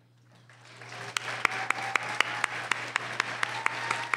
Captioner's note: applause